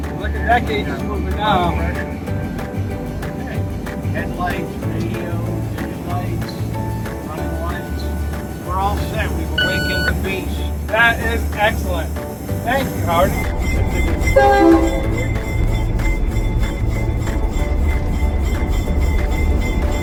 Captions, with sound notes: Look at that gauge is moving now. we're all set, we've awakened the beast! That is excellent! Thank you Howard! [Honk Honk]